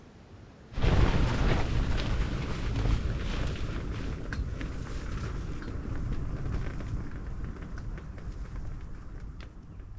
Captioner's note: wind gusting